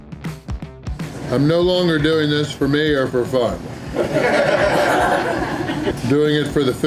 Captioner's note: crowd laughter